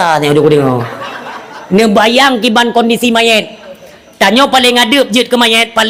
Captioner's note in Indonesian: tertawa